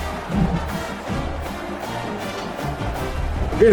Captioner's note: crowd Noises